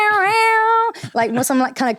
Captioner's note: imitating guitar sounds